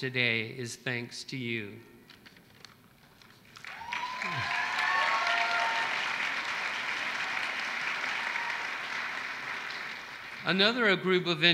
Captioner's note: applause